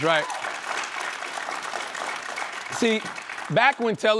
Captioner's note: applause